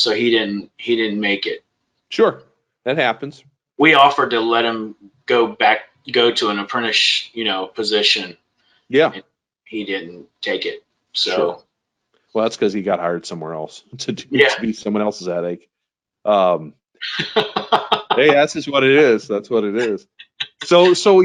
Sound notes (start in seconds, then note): 17.0 laughs